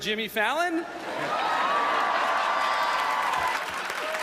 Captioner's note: cheering and applause; laughter